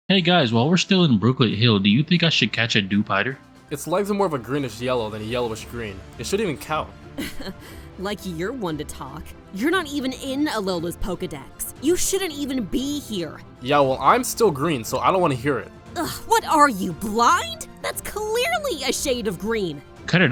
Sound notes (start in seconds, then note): 7.6 scoffs